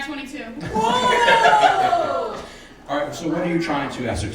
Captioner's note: audience laughs